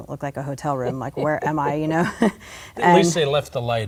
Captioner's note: laughter